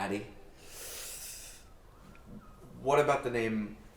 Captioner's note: Anubis inhaling